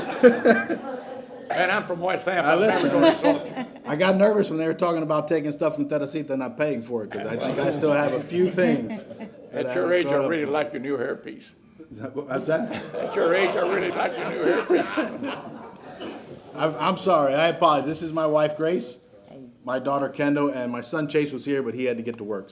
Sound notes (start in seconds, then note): 5.0 laughter